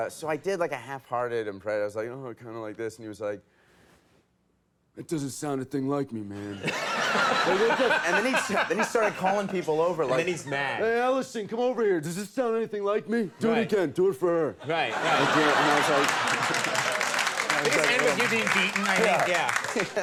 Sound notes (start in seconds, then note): 6.6 audience laughing; 7.2 Conan laughs; 14.6 audience laughing; 17.5 applause